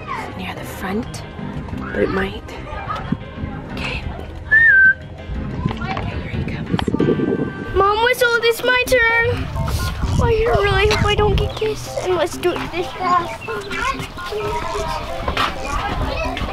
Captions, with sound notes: near the front where it might get him. (whistling) Okay, here he comes. - Mom whistled, it's my turn. Oh I really hope I don't get kissed and let's do this fast.